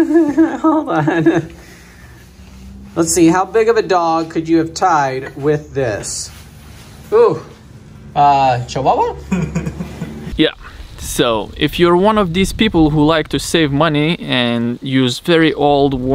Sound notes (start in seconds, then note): 0.0 giggling; 9.2 man chuckles